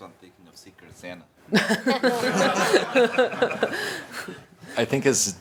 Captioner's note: laughter